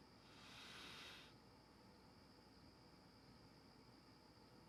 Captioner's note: X inhaling